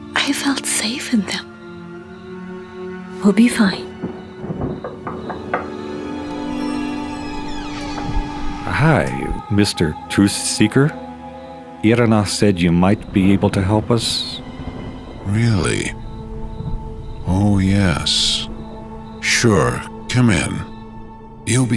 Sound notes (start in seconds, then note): 5.1 knocks; 6.6 door creaks